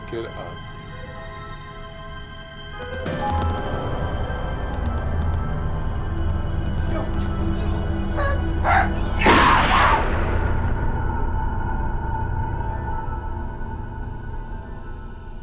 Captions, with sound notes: - Pick it up. (tense music) - Don't. (gun firing) (Kate screaming) (chilling music)